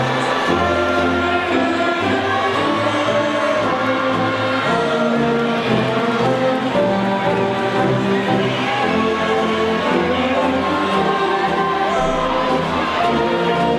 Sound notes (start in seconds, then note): 0.5 band music drowns out men; 8.5 audience faintly shouting